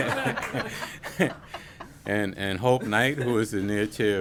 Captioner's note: laughter